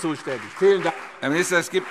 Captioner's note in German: Beifall CDU und BÜNDNIS 90/DIE GRÜNEN